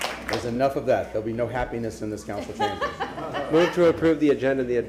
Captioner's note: applause